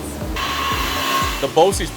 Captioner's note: saw cutting wood